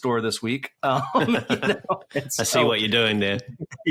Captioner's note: laughter